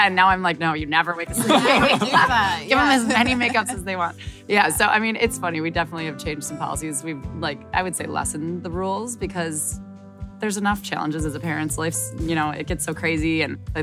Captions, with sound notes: And now I'm like, no, you never wake a sleeping -- - You never do that. (laughing) - Give them as many make-ups as they want. Yeah, so I mean, it's funny. We definitely have changed some policies. We've like, I'd say, I would say lessened the ruled because there's enough challenges as a parent. It gets so crazy.